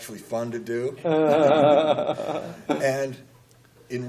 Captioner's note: laughter